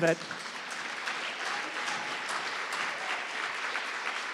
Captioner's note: audience applauding